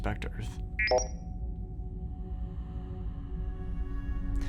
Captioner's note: computer beeps